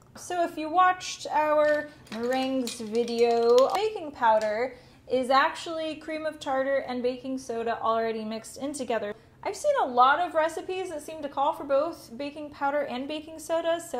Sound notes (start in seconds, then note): none